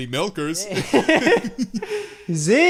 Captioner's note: both laughing